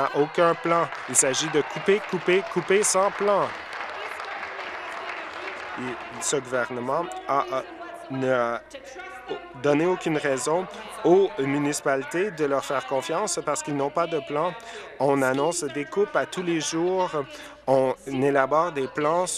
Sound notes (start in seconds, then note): 7.0 applause